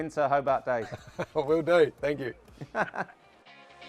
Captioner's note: laughs